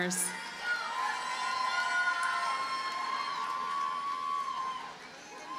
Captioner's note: audience cheers and applauds